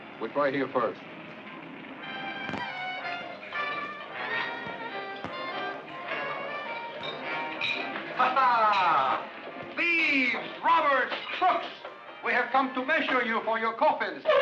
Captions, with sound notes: We try here first. (soft jazzy music) (people chattering) Ha ha, thieves, robbers, crooks! We have come to measure you for your coffins.